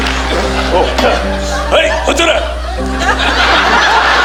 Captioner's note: imitating Japanese language; audience laughing